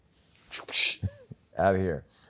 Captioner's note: whipping sound